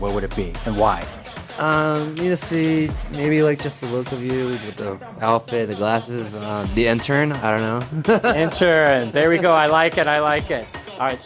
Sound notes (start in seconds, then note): 5.4 laughing